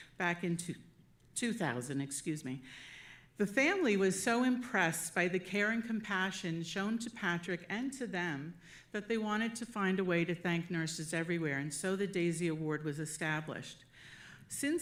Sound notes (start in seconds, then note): none